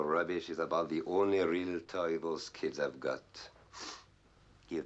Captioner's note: sniffs